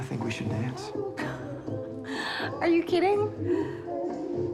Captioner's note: laughing